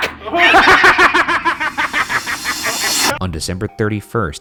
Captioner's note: cackles